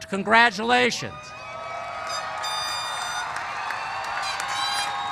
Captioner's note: cheers